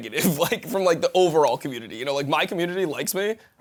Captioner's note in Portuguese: risos